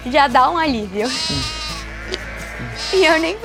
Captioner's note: bleating